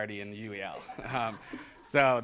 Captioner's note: laughter